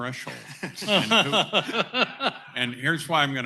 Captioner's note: laughter